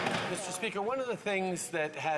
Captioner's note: applause